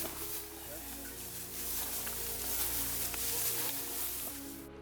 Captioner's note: bushes rustling; dramatic music